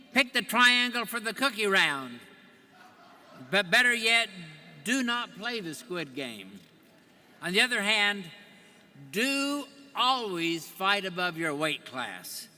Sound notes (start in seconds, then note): 2.8 audience laughing